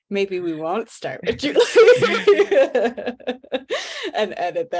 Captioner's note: laughs; panel members laugh